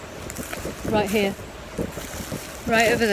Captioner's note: leaves rustling